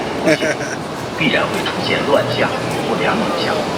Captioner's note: laughs